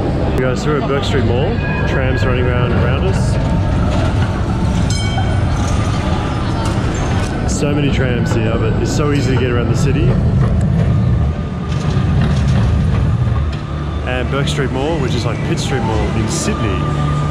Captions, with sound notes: - Hey guys, we're at Bourke Street Mall. Trams running round and round us. (tram rumbling) So many trams here but it's so easy to get around the city. And Bourke Street Mall, which is like Pit Street Mall in Sydney,